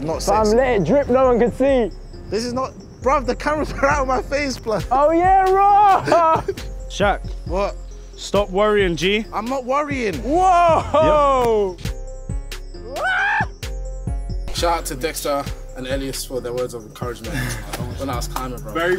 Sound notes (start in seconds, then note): 5.7 laughing; 12.9 screaming